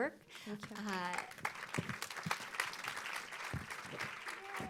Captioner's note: audience applauds